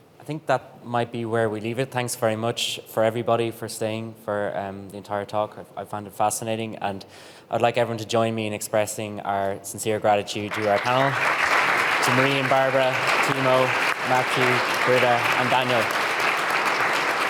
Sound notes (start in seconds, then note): 11.3 audience applauding